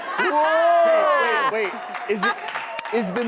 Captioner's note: audience cheers